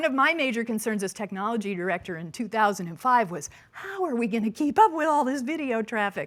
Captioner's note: none